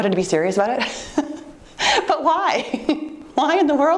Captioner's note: laughs